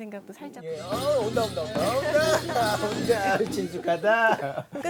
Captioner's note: ha ha ha ha…